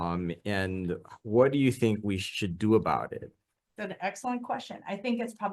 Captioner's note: none